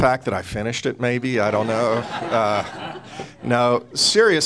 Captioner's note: audience laughing